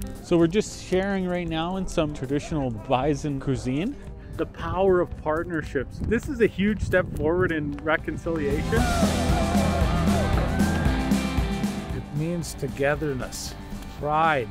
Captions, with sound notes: So we're just sharing right now in some traditional bison cuisine. The power of partnerships... this is a huge step forward in reconciliation. [people cheering] It means togetherness, pride,